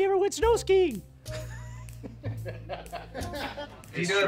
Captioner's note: laughter